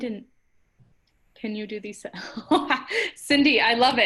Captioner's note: laughter